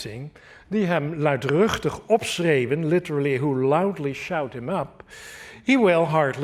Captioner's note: speaking dutch